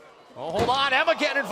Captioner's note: crowd chatter